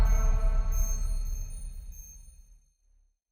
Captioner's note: upbeat music; graphics chiming